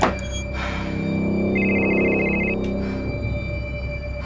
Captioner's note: phone ringing